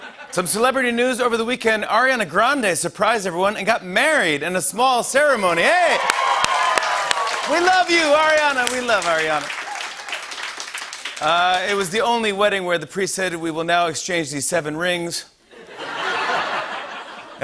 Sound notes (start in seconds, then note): 0.0 laughter; 5.4 cheering and applause; 9.3 applause; 15.5 laughter